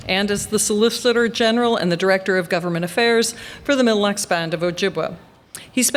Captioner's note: none